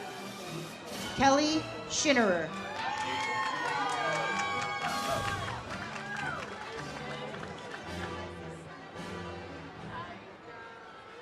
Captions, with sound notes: Kelly Schinnerer. (audience cheers) (ceremonial music)